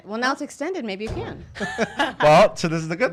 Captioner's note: laughs